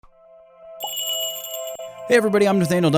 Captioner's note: magical jingle